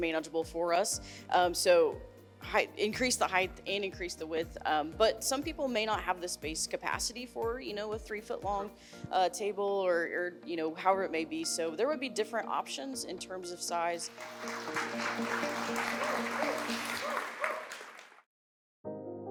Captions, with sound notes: so that it was manageable for us. So, increase the height and increase the width. But some people may not have the space capacity for, you know, with three-foot long table, or you know, however it may be. So there would be different options in terms of size. [all applauding, cheering]